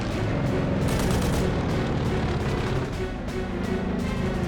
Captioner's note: gunfire